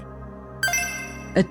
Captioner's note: pia chime